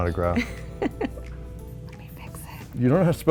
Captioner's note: laughs